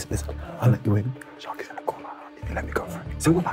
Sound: whispering

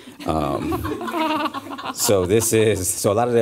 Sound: laughter

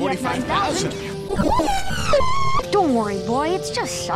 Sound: whimpers monophonically

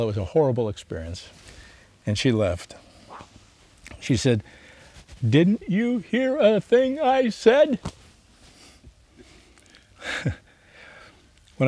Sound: sighs; laughs

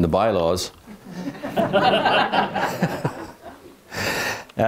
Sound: people laughing

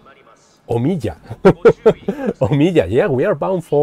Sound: laughs

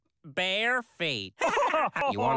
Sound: laughs

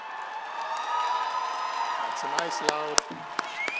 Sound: audience cheering

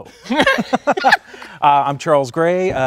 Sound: laughing

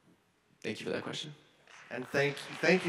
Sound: audience applauding

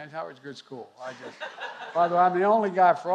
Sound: laughter

